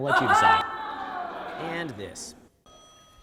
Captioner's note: audience laughs